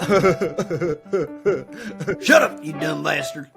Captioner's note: Carl laughing